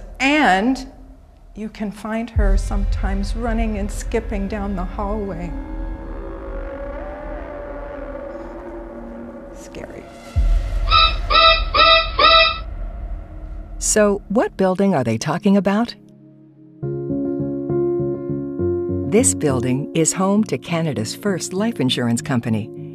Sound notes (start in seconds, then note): 5.9 ominous music; 10.6 scary sound effect; 16.8 gentle music